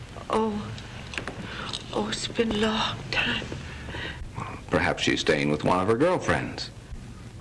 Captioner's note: none